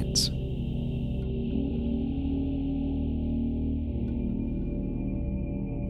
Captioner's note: ominous thrumming sound